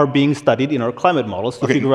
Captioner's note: laughter